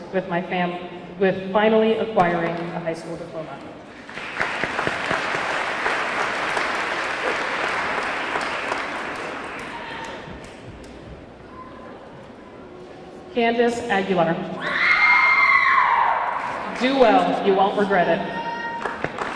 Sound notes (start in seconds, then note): 3.9 audience clapping; 4.1 audience cheering